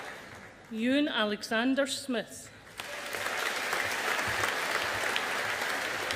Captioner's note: audience applauding